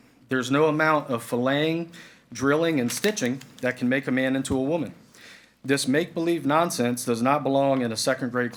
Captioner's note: none